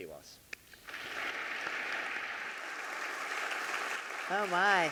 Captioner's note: clapping; audience clapping